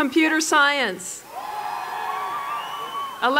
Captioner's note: applause